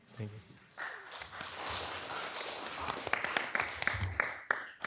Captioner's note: all applauding